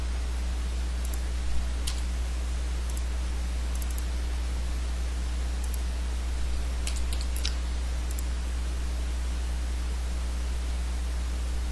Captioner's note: typing